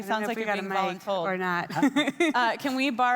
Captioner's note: laughs